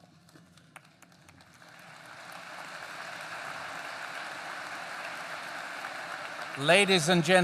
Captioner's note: applause